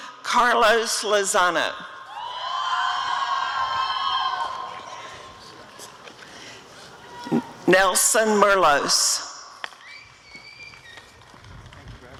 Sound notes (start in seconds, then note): 2.4 applause and cheering; 10.7 applause